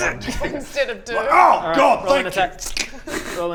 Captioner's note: squish